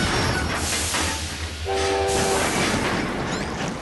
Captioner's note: squeaking wheels and brakes; train whistle